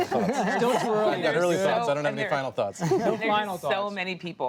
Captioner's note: laughter